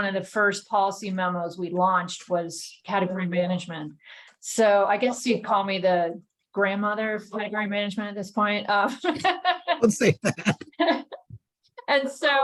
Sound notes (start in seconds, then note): 11.5 laughter